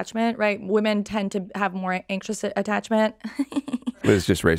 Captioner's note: laughs